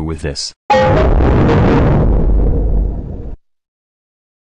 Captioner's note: Lowest Giga Windows XP shutdown sound